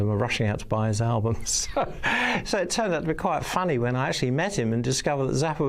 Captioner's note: laughs